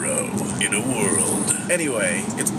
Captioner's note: movie-trailer voiceover impression